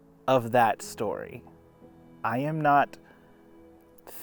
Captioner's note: none